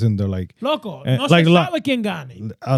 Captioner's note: speaking In Foreign Language